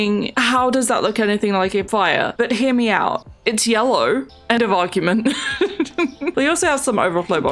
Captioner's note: laughs